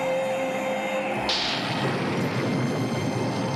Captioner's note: thunder rumbles